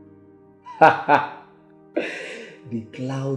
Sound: laugh

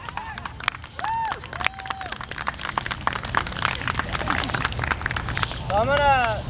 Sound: audience cheering and applauding

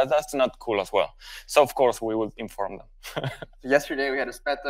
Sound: chuckles

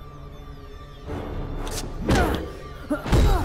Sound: grunts

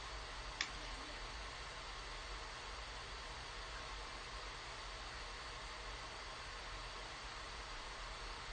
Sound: static noise

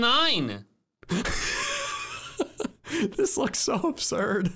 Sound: laughing

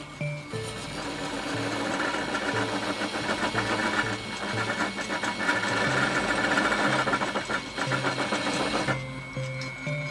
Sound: machine whirring

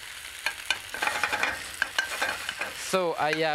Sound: shaking pan

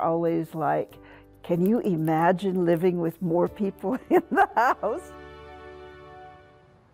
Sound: laughs

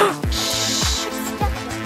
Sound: gasps

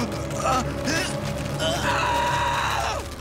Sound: grunting; screaming

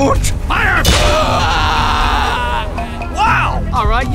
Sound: The Panther A screams

